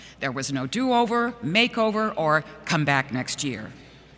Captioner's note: none